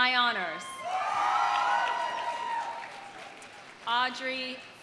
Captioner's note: audience cheering; audience applauding